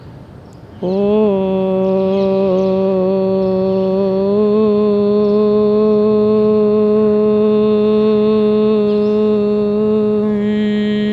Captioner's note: chanting